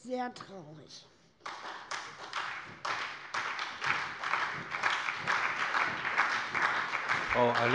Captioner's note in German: Beifall bei der SPD